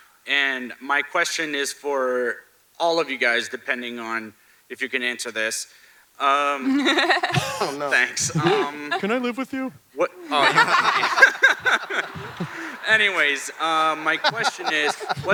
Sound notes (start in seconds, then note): 6.6 Ridley laughs; 10.2 panelists laugh